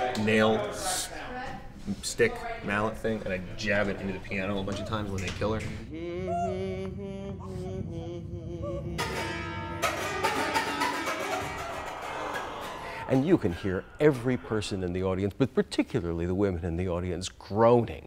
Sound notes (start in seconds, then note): 5.7 murderer humming a lullaby; 11.2 audience groan